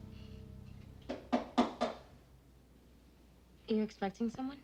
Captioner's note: knock on door